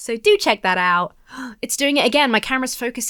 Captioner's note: gasps